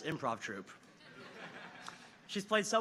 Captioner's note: audience laughs